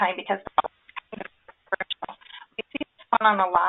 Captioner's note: audio crackles